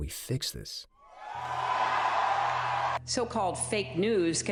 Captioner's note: cheering